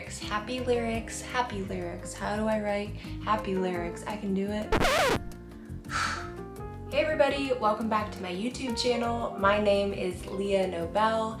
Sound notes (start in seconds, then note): 4.7 record scratches; 5.9 sighs